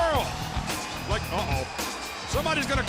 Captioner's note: crowd cheering